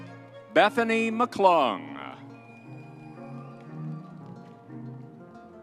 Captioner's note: crowd cheering